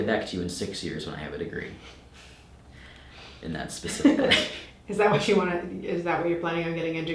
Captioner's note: laughing